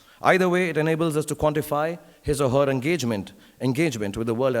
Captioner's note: none